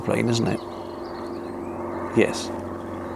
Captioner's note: airplane sound; airplane sound continues